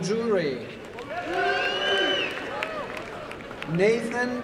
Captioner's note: applause and cheering